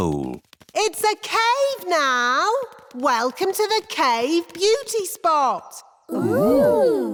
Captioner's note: echoing